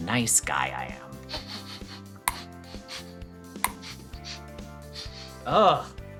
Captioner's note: sniffing